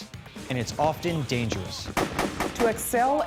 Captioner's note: gunfire